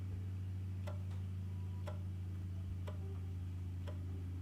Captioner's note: clock ticking